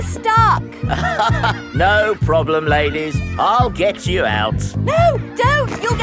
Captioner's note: chuckles